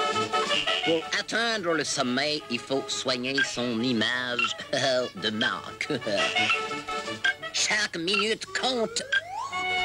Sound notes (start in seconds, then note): 4.4 chuckles